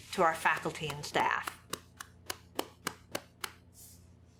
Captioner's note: claps